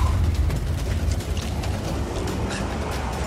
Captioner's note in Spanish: Chirrido de llantas